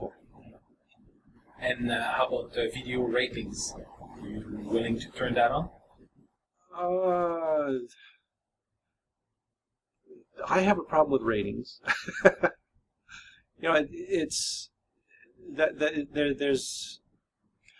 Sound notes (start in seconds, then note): 12.5 laughs